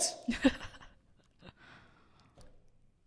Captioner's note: laughter